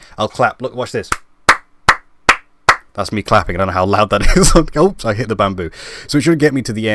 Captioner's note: clapping